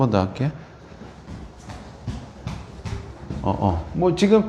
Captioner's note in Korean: 발바닥 쿵 하는 소리가 좀 나는 편